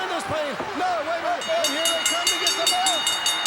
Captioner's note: bell rings